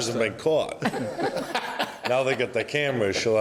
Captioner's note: laughs